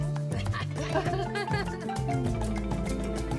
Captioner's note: laughing